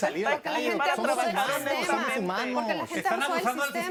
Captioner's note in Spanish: Comentarios al unísono